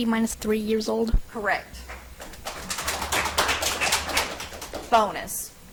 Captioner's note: audience applauds